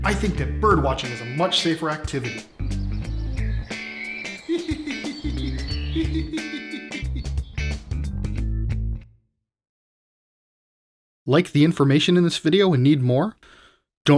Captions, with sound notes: I think that bird watching is a much safer activity. (birds tweeting) (laughing)